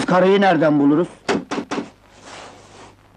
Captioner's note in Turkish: Kapı çalınma sesi